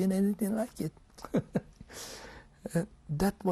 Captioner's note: laughs